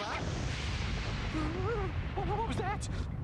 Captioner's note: explosion